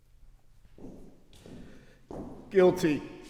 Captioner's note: footsteps receding